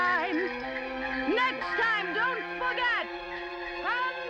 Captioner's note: sing-song voice; shouting